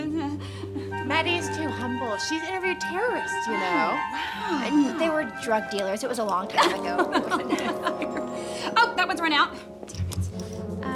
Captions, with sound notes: - Maddie is too humble. She's interviewed terrorists, you know. - Wow. - And they were drug dealers. It was a long time ago. (women laughing) - Oh, that one's run out. Dammit.